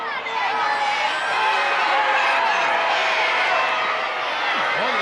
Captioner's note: audience booing